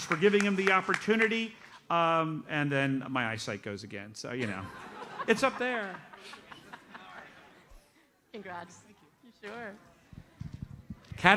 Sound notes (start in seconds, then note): 6.3 audience laughs